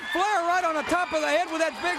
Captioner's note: crowd cheering